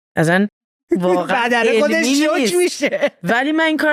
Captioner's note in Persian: خنده